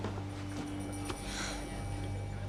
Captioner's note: exhales